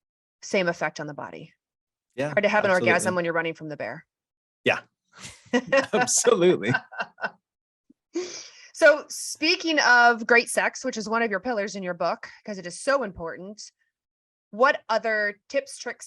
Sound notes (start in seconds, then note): 7.9 laughter